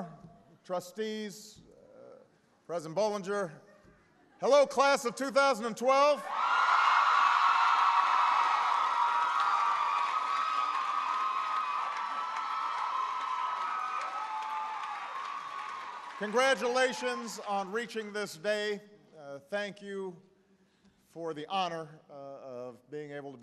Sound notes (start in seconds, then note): 11.0 applause